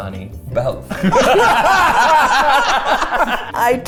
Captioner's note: everyone laughs